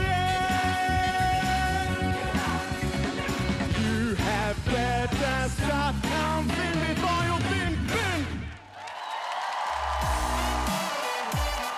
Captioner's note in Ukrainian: оплески